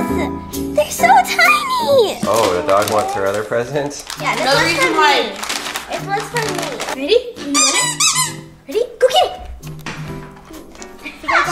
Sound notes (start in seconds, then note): 7.5 toy squeaking; 10.0 toy bounces on floor